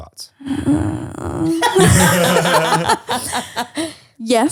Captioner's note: groaning